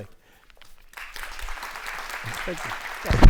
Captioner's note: audience applauds